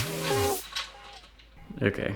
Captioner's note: exhales